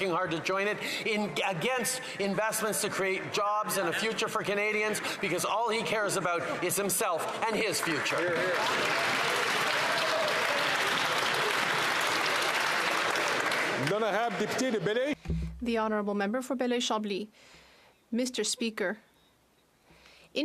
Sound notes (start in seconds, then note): 17.7 speaking French